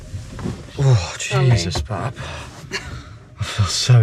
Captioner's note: exclaims